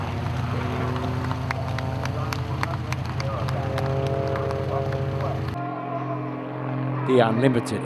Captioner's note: applause and aircraft sounds